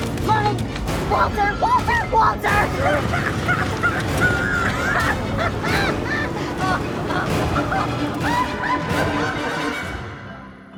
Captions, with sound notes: Walter, Walter, Walter! (Walter cackling) (dramatic music continues)